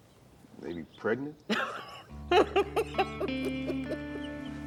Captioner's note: Beverly laughs